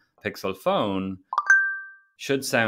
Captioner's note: notification sound